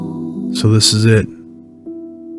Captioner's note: voiceover